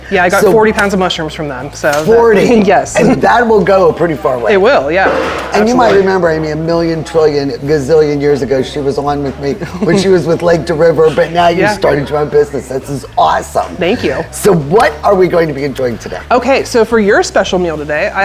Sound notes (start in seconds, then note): 3.7 chuckling; 9.6 laughing